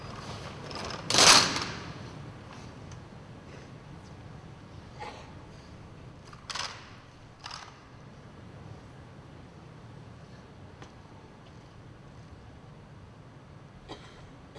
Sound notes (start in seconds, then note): 1.4 gunfire; 6.1 silence